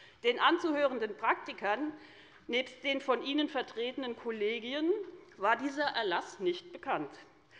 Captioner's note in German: none